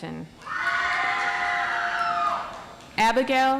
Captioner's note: audience applauds